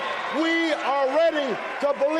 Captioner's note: applause